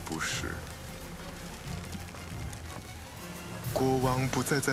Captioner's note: galley creaking